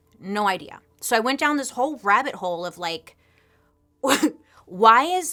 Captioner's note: laughs